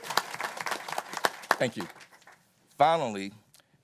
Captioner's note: applause